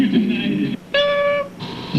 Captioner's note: beep